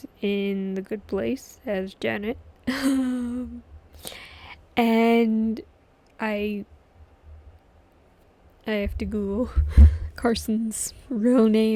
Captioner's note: laughs